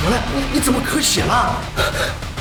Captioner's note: coughing up blood